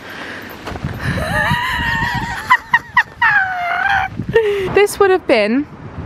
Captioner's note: laughing